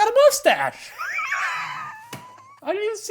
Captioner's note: pair laughs